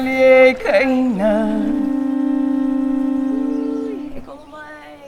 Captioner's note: chanting; sound of conch shell blowing